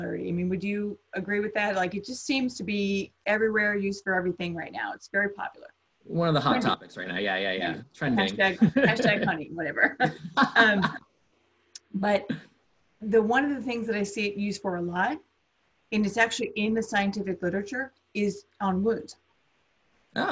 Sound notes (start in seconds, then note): 10.9 laughs